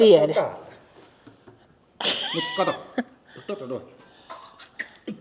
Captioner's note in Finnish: naurua